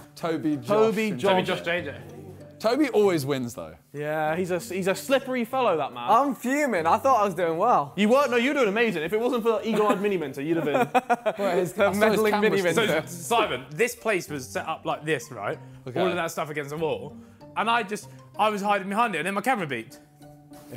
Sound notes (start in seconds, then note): 10.5 laughs